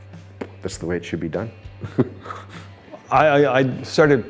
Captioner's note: chuckles